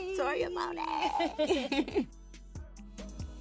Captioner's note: girls laughing; slow music